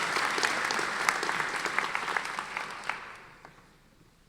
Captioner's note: audience applauding